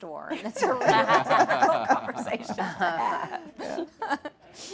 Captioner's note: laughing